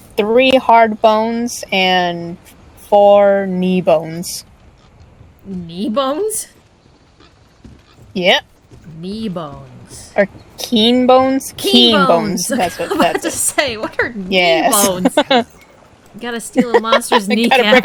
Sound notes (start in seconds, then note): 13.0 scoffs